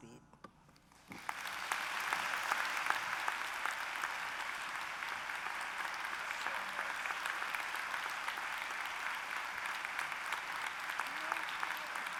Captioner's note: applause